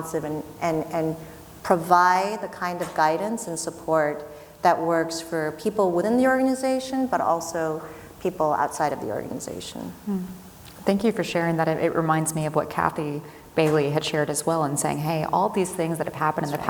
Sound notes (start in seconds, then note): none